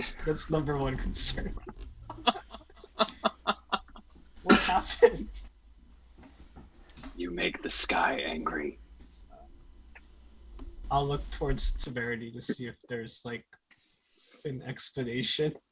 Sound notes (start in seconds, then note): 1.7 laugh